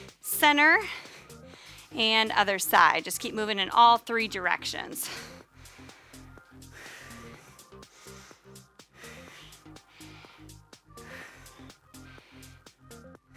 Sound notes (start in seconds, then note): 6.9 panting; 6.9 upbeat music